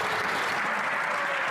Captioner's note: some Applause